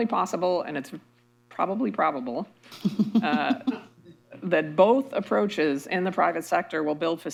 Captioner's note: laughter